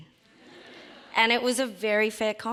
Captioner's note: audience laughs